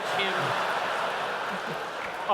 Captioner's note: laughter